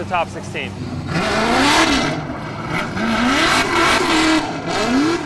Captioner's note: engine revving